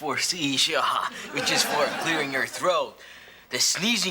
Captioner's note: chuckles